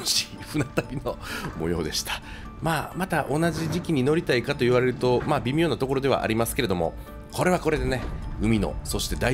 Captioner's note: laughs